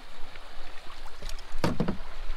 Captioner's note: clunk